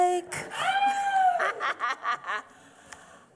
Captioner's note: laughs